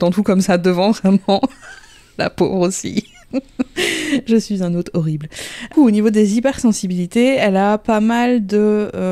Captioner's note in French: rire; rire